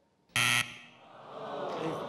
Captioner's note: incorrect buzzer; audience groans